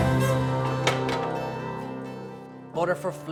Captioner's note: door clangs